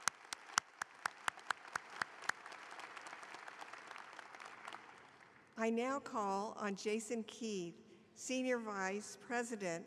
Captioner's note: applause